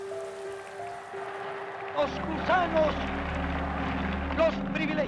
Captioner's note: speaking Spanish